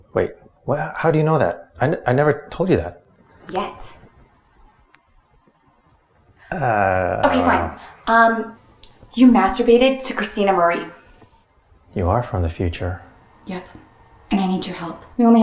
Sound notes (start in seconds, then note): 6.4 groans